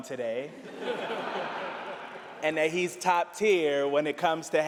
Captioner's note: laughter